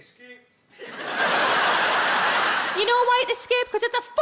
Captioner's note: audience laughs